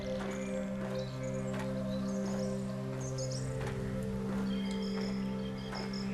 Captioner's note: footsteps